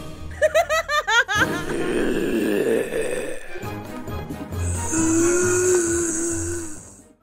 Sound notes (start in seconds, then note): 0.4 laughing; 1.4 zombie grunting